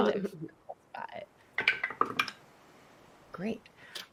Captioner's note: dice thudding